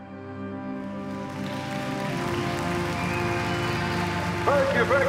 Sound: applause

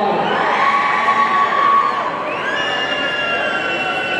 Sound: audience cheering

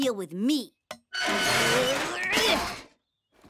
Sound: groaning; yelling

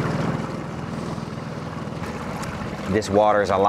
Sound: boat engine revving

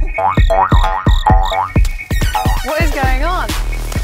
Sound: ball boinging

